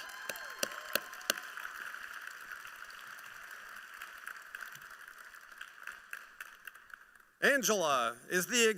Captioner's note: applause